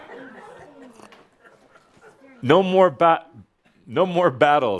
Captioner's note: some chuckles